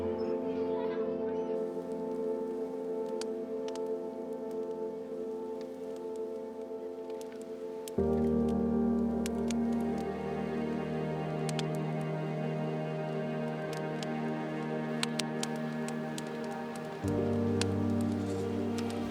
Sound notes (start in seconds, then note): 12.9 fire crackling